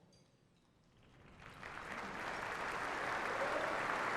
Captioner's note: applause